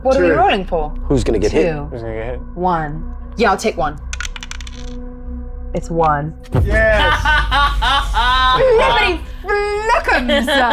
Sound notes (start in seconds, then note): 4.0 dice clinks; 6.9 laughs